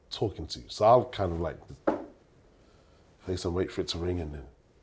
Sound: knocks on table

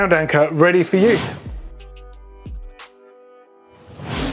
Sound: whoosh

